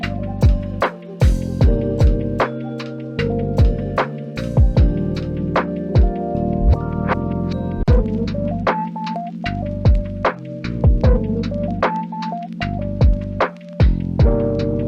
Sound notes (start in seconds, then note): none